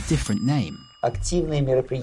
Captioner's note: ding; non-English speech